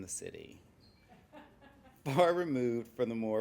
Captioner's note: laughing